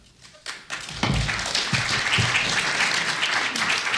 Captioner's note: applause